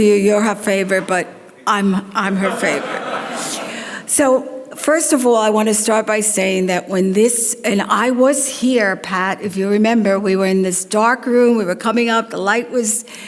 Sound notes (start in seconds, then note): 2.8 audience laughs